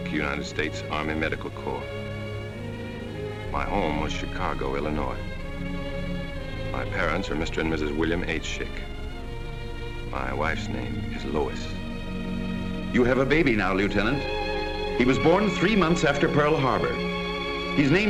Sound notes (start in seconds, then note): 13.2 voiceover